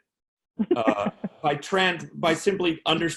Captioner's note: laughing